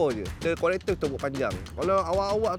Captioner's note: long clap